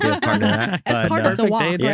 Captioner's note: laughing